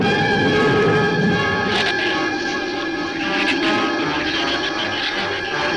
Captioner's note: shrew chatter; thunder claps